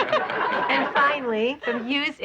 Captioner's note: laughing